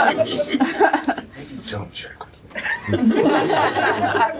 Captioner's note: laughter